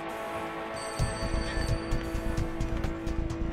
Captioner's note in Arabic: يستمر الرنين